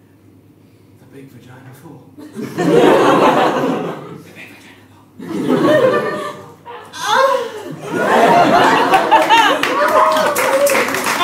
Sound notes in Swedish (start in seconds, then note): 4.3 viskar; 6.7 stönar; 8.9 applåder